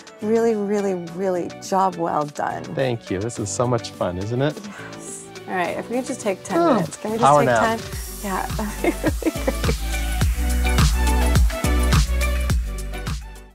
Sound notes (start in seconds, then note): 8.6 laughing; 10.9 upbeat music